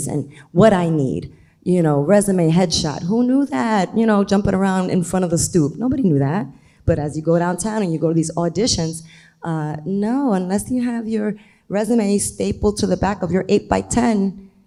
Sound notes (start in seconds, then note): none